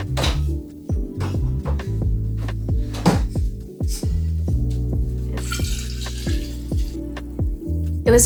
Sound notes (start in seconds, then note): 0.0 fridge door opening; 2.8 fridge door closing; 5.1 water pouring into glass